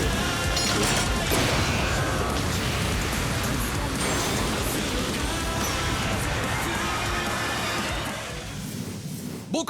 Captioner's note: Sounds of Rudo’s attack